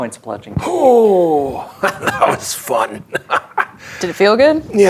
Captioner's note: laughing